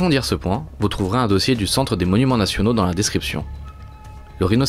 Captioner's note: in french